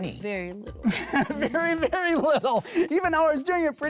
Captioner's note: laughing